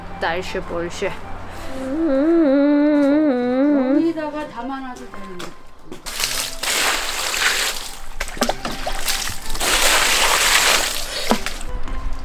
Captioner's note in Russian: стонет